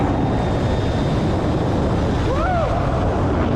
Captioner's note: whirring and wind